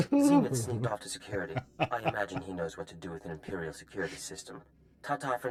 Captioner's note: laughs